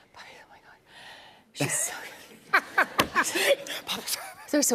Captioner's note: laughs